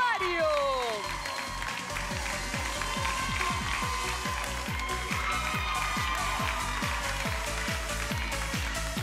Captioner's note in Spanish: Aplausos; Exclamaciones